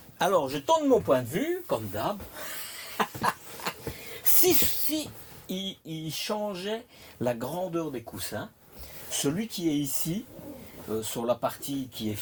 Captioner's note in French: rires